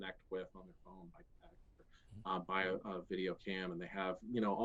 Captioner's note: voice muffling